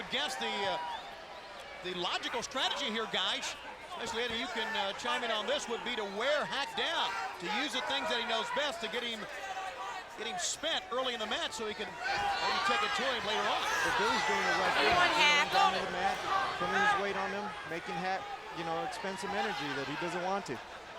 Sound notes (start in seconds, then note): 14.1 Eddie speaking faintly